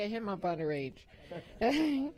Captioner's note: laughter